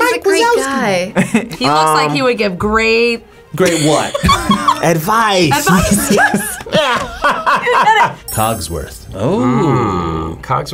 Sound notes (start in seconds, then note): 5.5 laughs; 5.5 both laugh